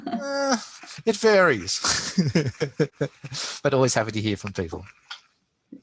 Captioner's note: laughs